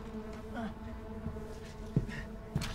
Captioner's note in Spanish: Gruñidos